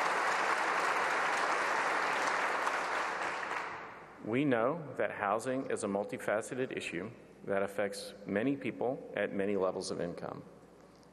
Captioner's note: applause